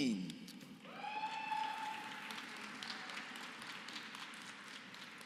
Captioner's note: applause